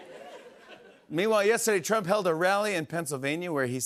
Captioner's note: as Trump; normal voice